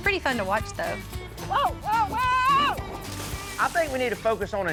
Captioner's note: splash